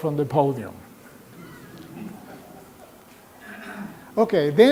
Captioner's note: laughter